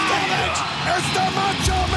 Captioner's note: crowd cheering